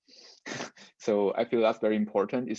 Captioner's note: laughs